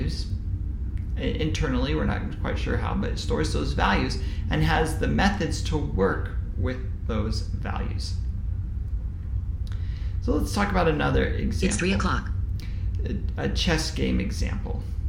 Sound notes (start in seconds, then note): 11.6 Dr Carroll computer's alarm sound